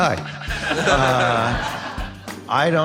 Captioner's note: audience laughing